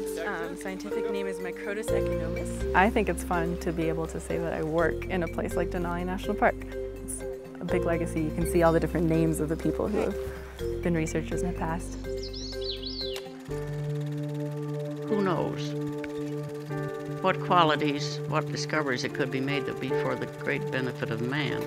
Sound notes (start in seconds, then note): 11.7 bird trilling; 13.4 projector whirring